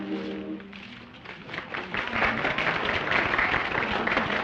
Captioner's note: applause